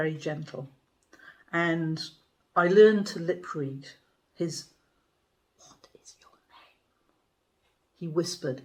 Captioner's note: whispering